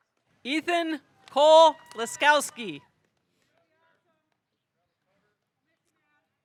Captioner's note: audience cheering